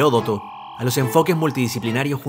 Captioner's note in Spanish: sonido láser